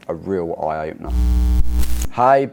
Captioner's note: static buzzing